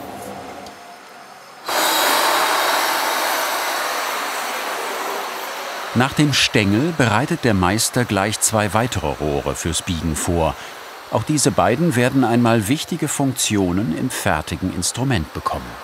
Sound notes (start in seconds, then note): 1.9 hissing